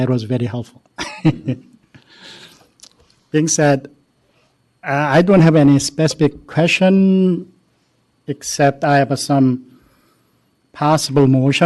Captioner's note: laughter